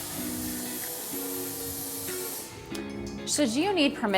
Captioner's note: blow dryer whooshing